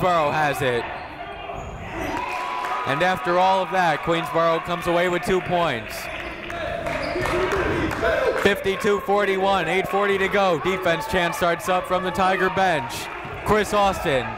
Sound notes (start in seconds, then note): 1.8 cheering